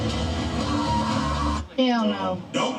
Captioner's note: character screaming